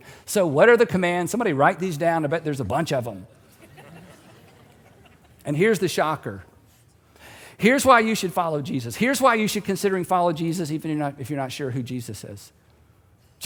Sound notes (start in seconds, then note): 3.5 audience chuckling